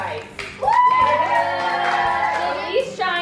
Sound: kids cheering

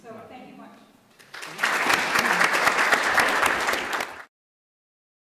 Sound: applause

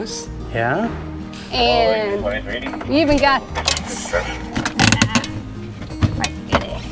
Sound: speaking on radio

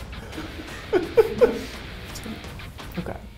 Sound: laughs

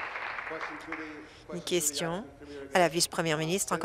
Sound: applause

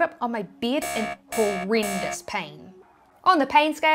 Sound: alarm blaring

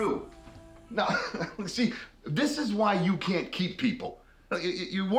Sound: laughs

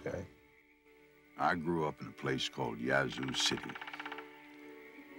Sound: voiceover

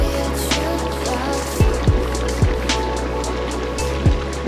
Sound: water bubbling

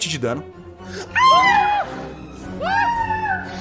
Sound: screams

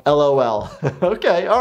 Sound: laughs

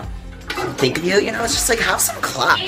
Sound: toilet flushing

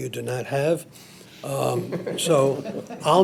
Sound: trustees laughing

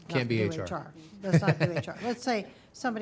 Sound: chuckling

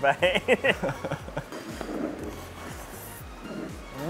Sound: both chuckling

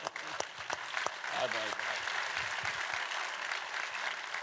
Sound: audience clapping

